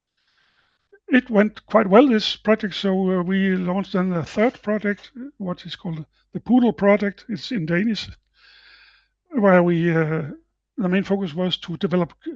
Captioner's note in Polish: po duńsku